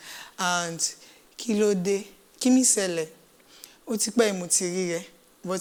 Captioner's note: speaks in a foreign language